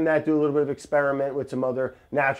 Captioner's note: none